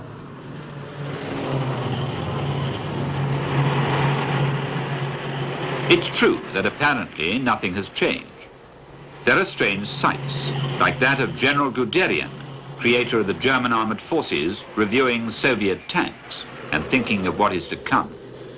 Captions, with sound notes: (engines humming) It's true that apparently nothing has changed. There are strange sights. Like that of General Guderian, creator of the German Armed Forces, reviewing Soviet tanks and thinking of what is to come.